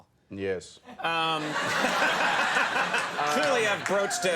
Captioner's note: crowd laughs